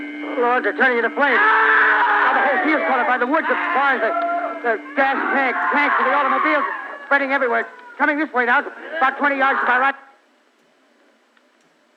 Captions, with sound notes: Oh lord, they’re turning into flame! [Man screaming] Oh lord, they’re turning into flame! [Man screaming] Now the whole field is caught on fire, the woods, the barns...! [Man screaming] The gas tanks, [Man screaming] tanks in the automobiles, spreading everywhere... Coming this way now, about 20 yards, about right--